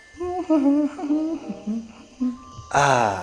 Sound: hums

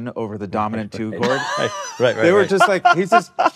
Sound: laughing

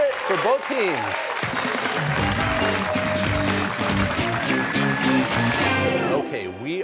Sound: cheers and applause

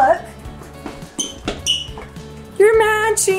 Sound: sneakers squeak

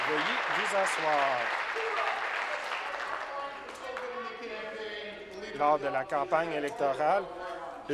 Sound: applause

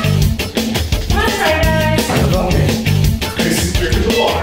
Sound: eaters groaning

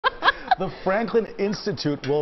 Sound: laughter

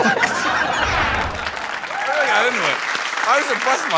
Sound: cheers and applause

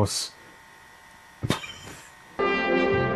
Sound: snigger

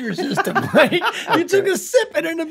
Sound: rob laughs

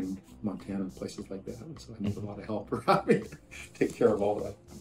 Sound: laughs

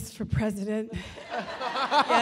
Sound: laughing

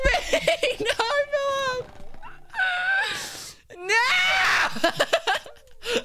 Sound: gasp

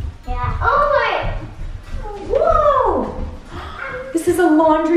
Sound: children exclaim

